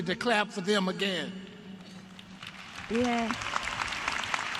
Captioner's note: applause